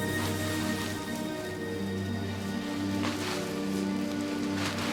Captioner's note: rustling leaves; ominous music